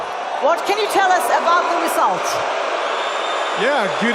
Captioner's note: audience booing loudly